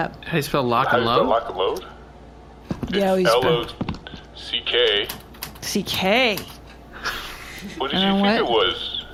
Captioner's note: typing